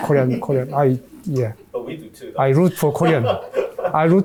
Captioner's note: laughs